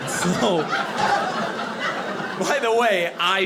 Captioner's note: audience laughing